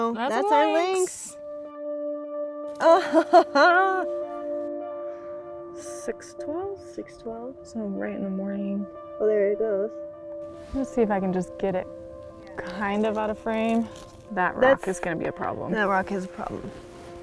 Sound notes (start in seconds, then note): 2.9 laughs